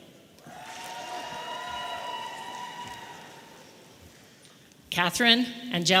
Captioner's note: audience applauding and cheering